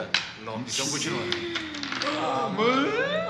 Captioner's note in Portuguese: suspiros de espanto